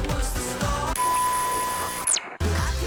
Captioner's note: static fuzzing